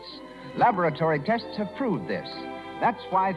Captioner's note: none